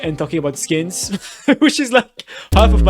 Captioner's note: laughs